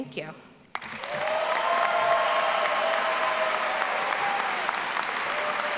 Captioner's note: all applauding and cheering